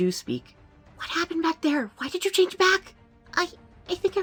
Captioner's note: hushed